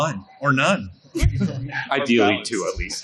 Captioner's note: laughing